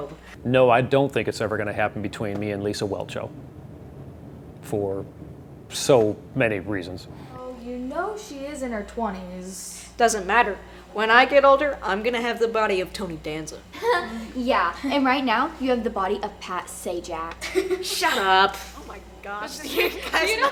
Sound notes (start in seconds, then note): 13.8 laughs